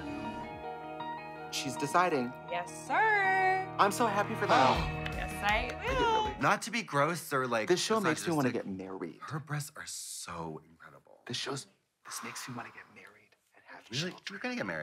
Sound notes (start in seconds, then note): 0.0 suspenseful music; 4.8 claps